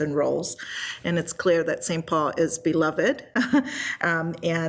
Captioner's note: laughs